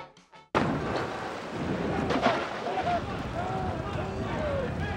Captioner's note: thunder crashing